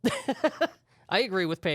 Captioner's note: laughs